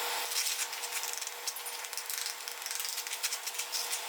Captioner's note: metal scraping